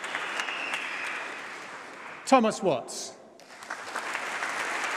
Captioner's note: applause